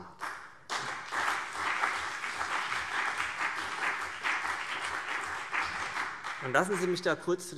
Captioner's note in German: Beifall CDU und BÜNDNIS 90/DIE GRÜNEN